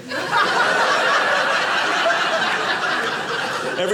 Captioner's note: audience laughing